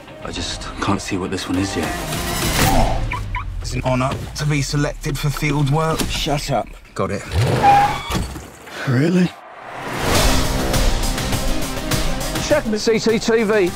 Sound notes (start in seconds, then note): 3.0 car alarm chirps